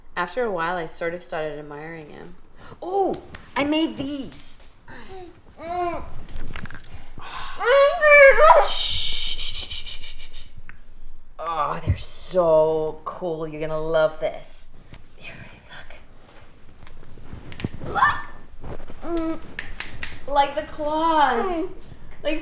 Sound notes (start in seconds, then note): 6.0 Jessie screams; 9.1 Maisie hushing